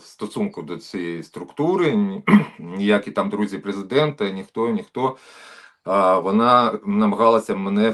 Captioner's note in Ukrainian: прочищення горла